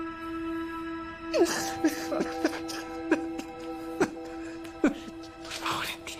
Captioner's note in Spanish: Sollozos